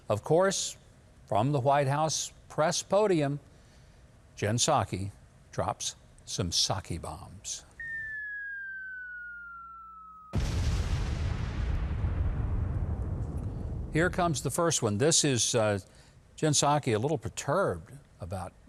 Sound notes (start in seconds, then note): 7.8 whistle of bomb dropping; 10.2 explosion